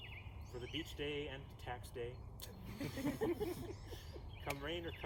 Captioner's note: laughter